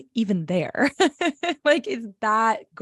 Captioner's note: laughs